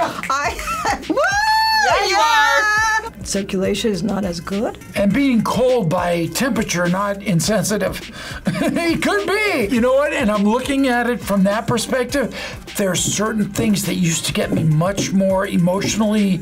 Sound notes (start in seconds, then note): 8.4 laughs